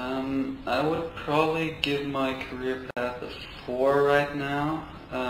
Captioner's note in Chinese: 录音